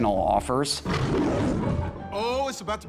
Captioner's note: lion roaring